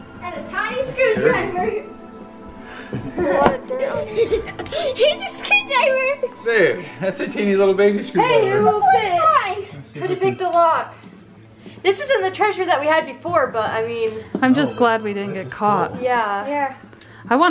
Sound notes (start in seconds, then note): 5.3 giggling